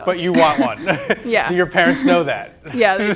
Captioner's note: laughs